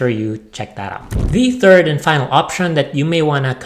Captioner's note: flames whooshing